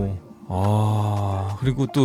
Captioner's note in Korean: 감탄